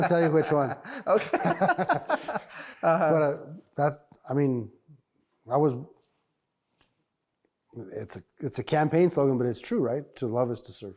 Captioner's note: laughing